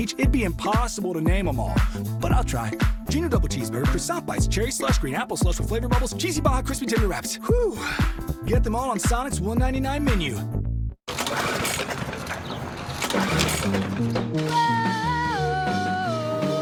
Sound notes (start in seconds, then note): 11.0 sound of lawnmower; 15.2 vocalizing